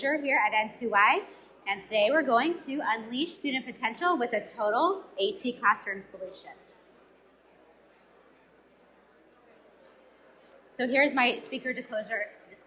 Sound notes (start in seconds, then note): 6.7 audience mumbling